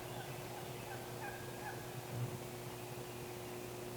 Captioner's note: turkey yelping